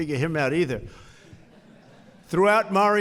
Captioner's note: laughter